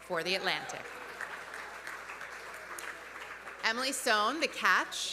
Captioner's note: audience cheering; audience applauding